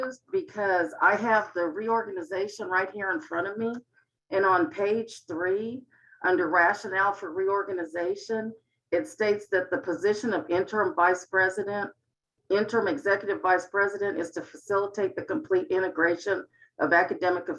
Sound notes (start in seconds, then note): none